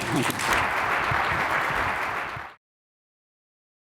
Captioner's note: audience clapping